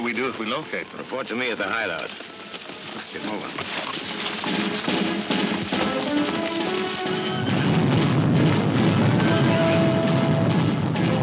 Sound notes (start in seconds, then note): 4.5 dramatic music; 7.2 stampede rumbling